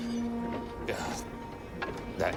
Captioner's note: groans